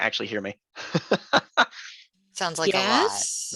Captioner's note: instructor laughs